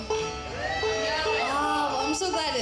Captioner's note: audience cheering